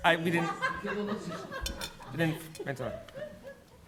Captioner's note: laughter